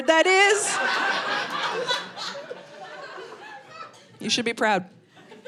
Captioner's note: audience laughing